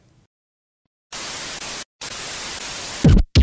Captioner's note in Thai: เสียงโทรทัศน์; เสียงเอฟเฟ็กต์